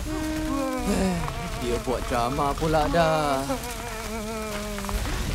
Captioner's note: wailing pitifully; sighs